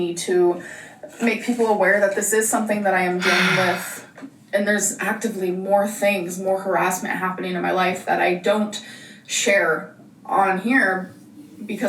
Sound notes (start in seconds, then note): 3.2 sighs